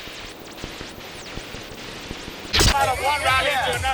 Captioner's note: TV static buzzes; attendees chatting indistinctly